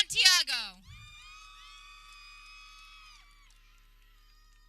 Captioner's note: people cheering